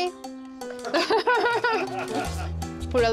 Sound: laughter

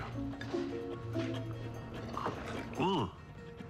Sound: slurps

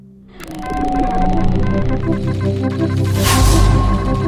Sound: morse code beeping sound

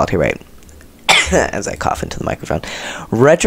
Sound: cough

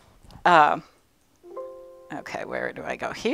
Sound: computer dinging

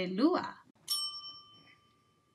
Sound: bell dings

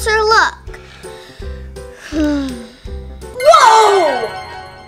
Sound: groans

